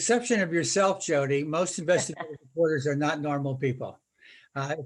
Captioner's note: laughter